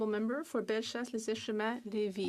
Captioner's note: speaking French